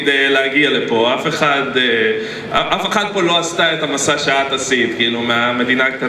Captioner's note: man speaks in Hebrew